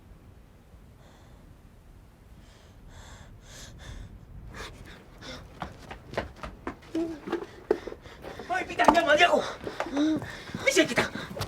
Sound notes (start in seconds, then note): 6.7 panting